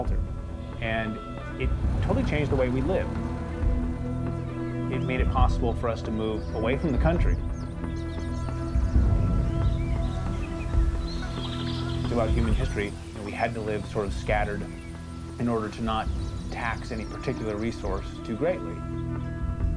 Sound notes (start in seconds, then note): 8.1 birds chirp